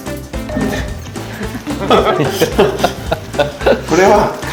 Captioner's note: laughs